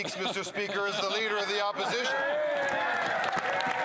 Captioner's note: some Applause